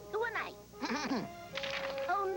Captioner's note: clears throat; paper rustling